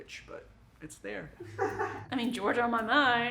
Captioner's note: crew chuckles